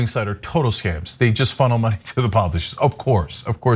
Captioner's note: laugh